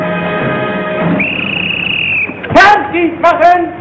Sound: whistle shrieking; man speaking German

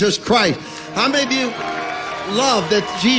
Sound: congregation cheering

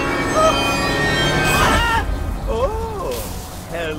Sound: scream

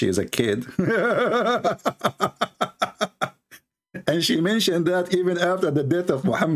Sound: Ketawa

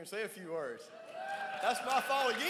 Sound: crowd cheers

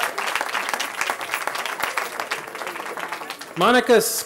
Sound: cheering

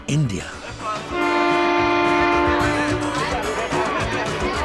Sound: train horn sounds

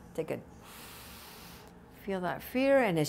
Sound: deep breath

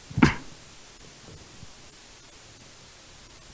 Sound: coughs

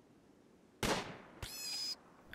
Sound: gunshot; squeal

